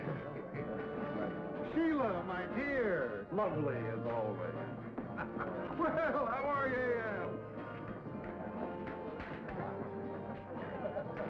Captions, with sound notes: Sheila, my dear, lovely as always. (laughs) Well, how are you, Ed? (bright, cheerful music)